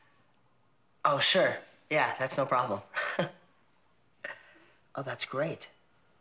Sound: laughs

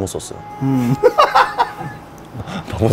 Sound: laughing

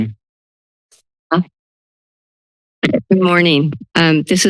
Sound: silence

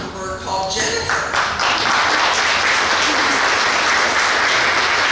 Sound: clapping

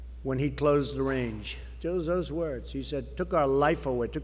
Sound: none

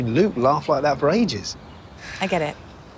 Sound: sighs

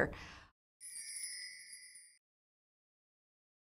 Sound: soft chimes

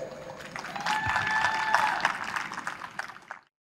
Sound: crowd applauding and cheering

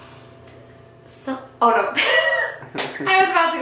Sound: laughs

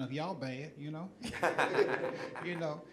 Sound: audience laughing

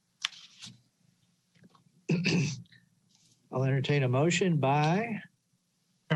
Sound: clearing throat

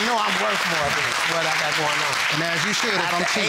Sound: audience applauding

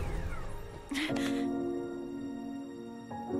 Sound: starts crying

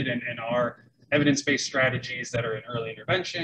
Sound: none

